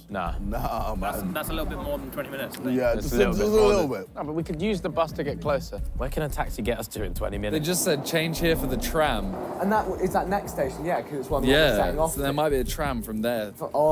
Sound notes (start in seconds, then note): none